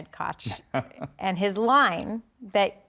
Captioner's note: Mike chuckling